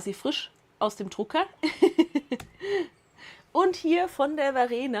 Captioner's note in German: Lachen